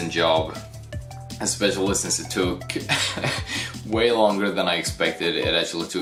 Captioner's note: laughs